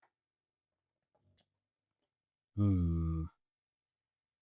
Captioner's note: sighs